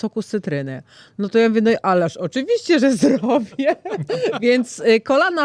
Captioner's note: śmiech